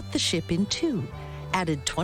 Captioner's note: none